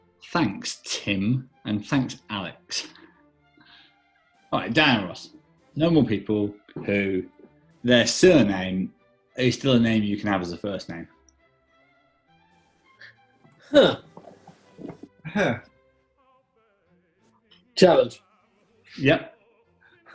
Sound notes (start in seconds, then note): 15.2 mimics camply